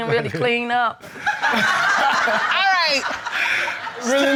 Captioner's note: everyone laughing